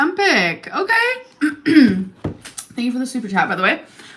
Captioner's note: clears throat